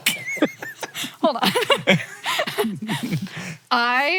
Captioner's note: both laugh; laughing